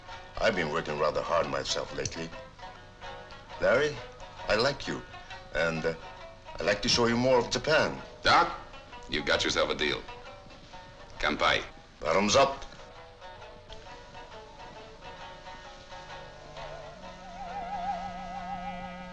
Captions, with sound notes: I've been working rather hard myself lately. Larry, I like you, and I'd like to show you more of Japan. - Doc, you've got yourself a deal. (speaks in foreign language) - Bottoms up. (soft, eerie music)